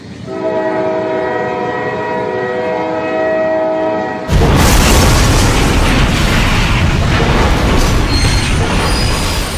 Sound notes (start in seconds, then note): 0.2 train horn bellows; 4.3 crashing noises